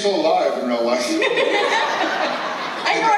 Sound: laugters

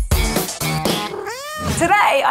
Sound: fun upbeat music; cat meows

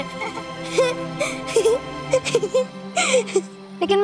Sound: laughing

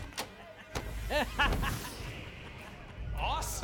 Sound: laughing

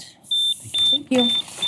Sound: beep

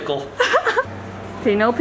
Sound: laughs

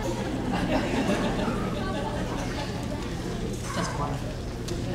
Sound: audience laughing

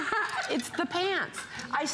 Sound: laughter

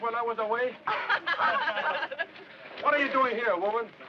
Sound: all laughing

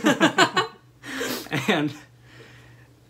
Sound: laughter

